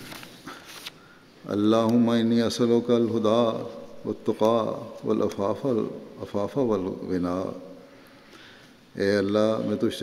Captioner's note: Arabic